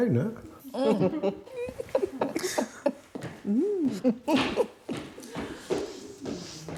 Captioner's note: chuckling